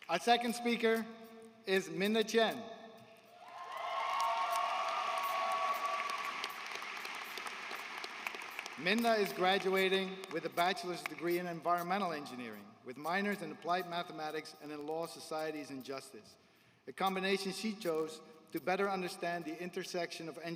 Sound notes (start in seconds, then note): 8.7 applause